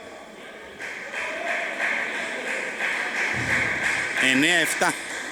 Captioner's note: applause